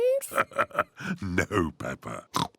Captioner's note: chuckles; oinks